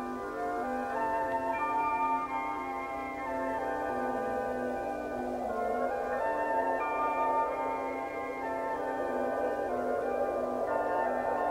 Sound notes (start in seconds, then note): 3.1 wind howls